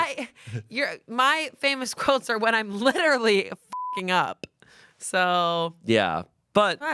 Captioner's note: beep